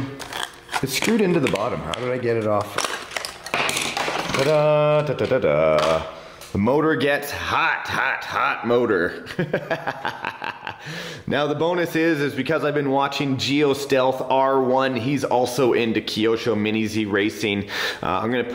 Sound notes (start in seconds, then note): 2.9 cardboard crinkles; 9.3 laughs